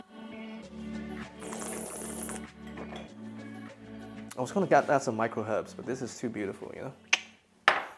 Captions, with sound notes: [slurps] I was gonna add some micro herbs, but this is too beautiful, you know?